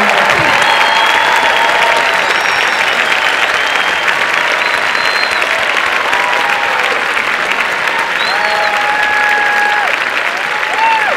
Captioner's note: applause and cheering